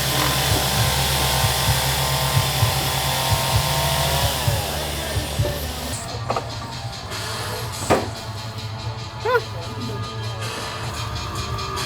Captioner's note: construction noise